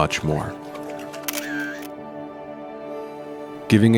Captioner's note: paddling; camera click